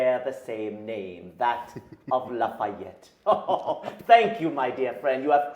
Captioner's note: laughs